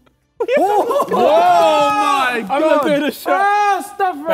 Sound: Sidemen yell

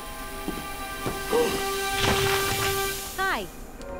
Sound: grunting

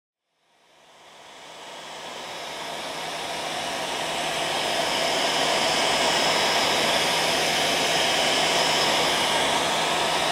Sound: whirr of a hair dryer

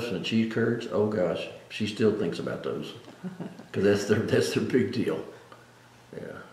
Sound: laughs

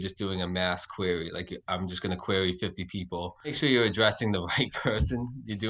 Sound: chuckles

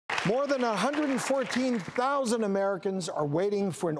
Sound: audience clapping

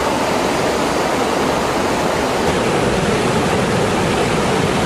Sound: water rushing loudly

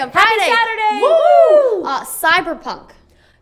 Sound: cheers

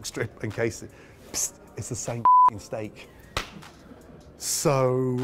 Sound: beep

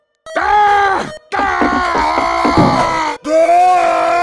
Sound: screams; Peppino shouting

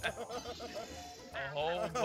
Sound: laugh

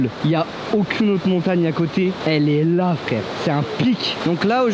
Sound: none

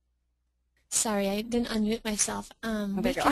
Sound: voiceover

